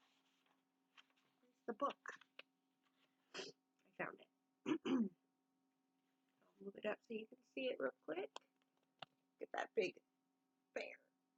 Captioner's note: throat clear